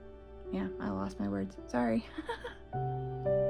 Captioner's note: laugh